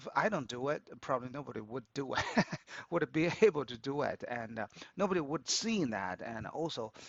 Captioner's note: laughs